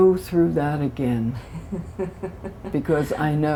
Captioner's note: laughter